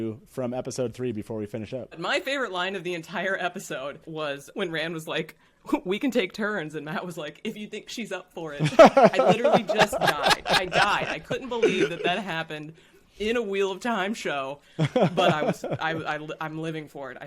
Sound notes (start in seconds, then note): 8.6 all laughing